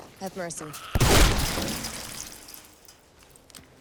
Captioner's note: gunshot